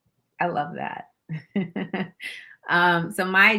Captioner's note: chuckles